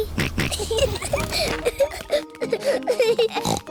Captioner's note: kids giggling; snorts